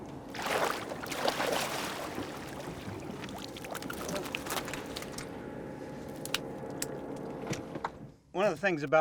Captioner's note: splashing